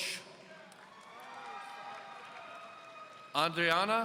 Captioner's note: audience cheering